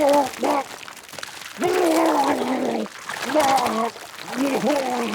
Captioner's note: retches; Walter retching